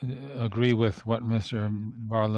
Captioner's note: speaking French